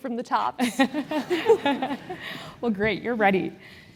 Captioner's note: laugh